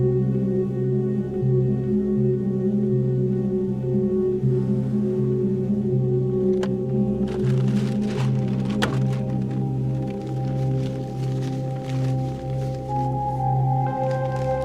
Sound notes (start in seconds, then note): 7.1 paper rustling; 11.0 ominous music